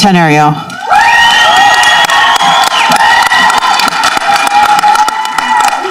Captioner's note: people applauding and cheering